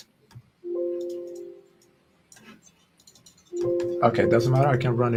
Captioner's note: notification ringing